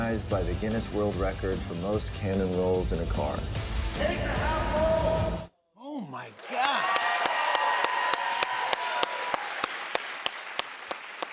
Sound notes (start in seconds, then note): 6.3 cheers and applause